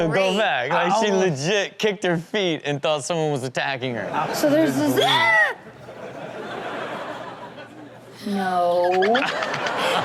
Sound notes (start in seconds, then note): 4.1 audience laughs; 5.0 woman screams